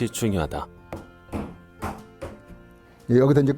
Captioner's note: hammering sound